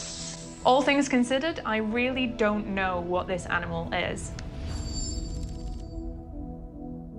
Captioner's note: none